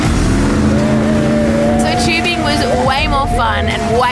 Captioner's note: group cheering